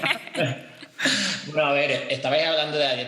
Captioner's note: they laugh